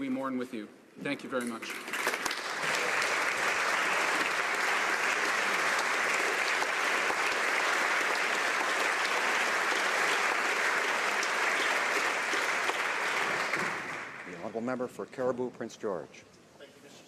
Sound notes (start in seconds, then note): 5.0 applause